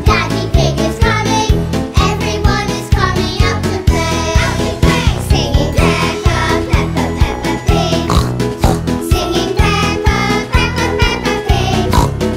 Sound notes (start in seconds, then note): 5.3 singing; 8.0 oink; 8.3 singing; 11.8 oink